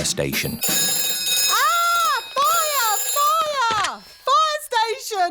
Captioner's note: rings